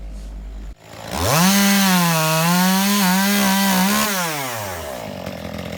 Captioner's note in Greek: Ήχος απ' το αλυσοπρίονο